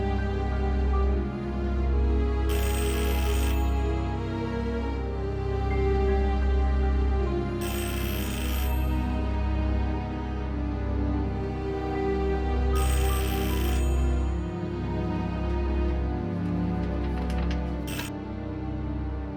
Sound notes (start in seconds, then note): 2.5 phone ringing